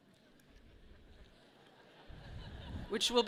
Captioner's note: people chuckle